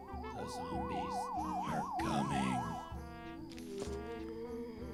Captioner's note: voiceover